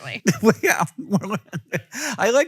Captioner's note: laughs